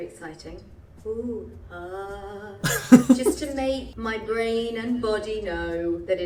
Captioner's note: speaking slowly